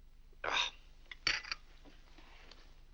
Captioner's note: Mr. Day grumbles